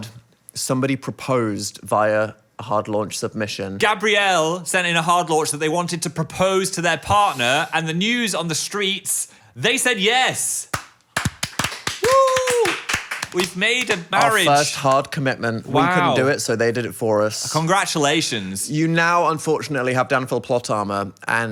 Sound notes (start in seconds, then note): 10.6 hands clapping